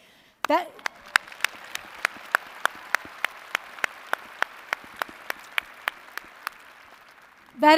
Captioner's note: applause